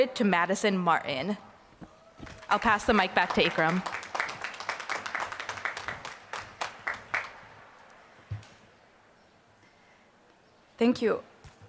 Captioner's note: applause